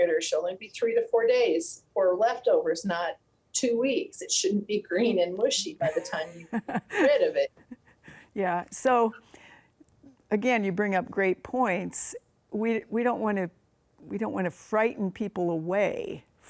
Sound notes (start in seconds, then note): 5.8 laughs